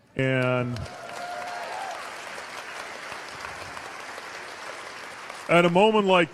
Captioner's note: cheers/applause